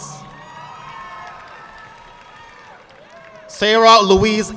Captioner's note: audience clapping